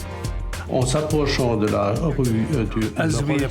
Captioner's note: non-english speech